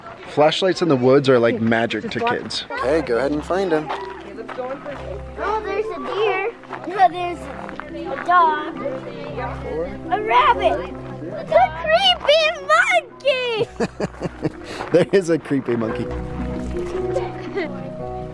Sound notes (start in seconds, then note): 13.6 chuckles